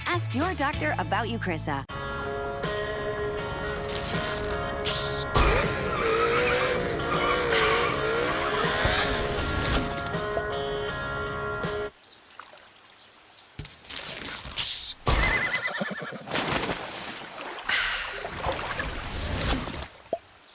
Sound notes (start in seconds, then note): 3.6 SFX: bottle opening; 5.6 SFX: tires screeching; 13.6 SFX: bottle opening